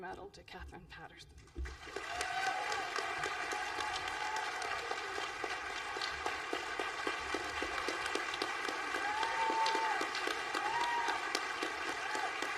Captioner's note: applause